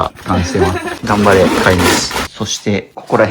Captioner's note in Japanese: 笑い